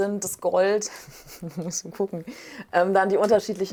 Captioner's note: laughs